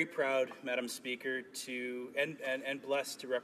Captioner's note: speaking french